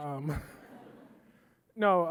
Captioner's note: audience laughing